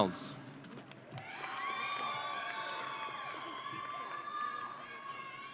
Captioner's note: audience cheering